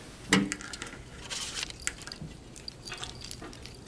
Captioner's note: metal clanking; bullets jingle